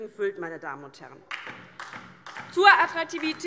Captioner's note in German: Beifall DIE LINKE